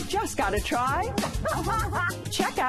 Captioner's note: laughter